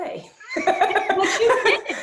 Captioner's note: laughs